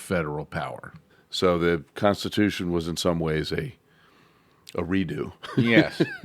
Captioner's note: laughs